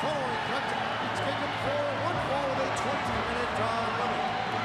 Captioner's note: crowd chattering